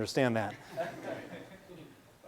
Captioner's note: laughing